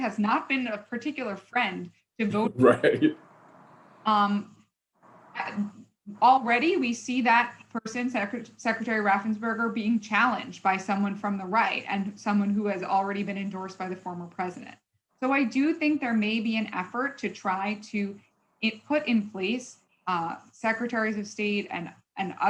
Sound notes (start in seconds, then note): 5.5 chuckles